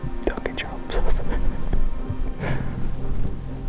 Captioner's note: laughing